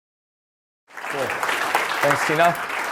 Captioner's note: applause